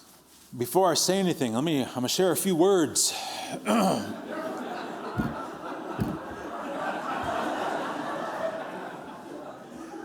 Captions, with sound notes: Before I say anything, let me share a few words. [laughter]